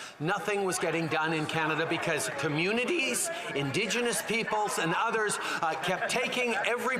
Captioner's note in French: voix de l'interprète